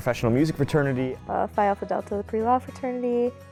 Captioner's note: voiceover